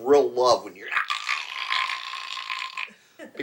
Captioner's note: choking sound